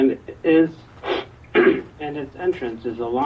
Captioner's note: clears throat